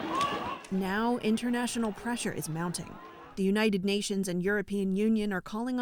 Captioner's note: voice-over